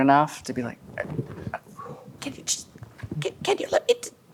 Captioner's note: struggling